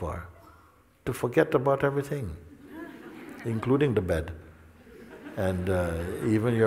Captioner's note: Lachen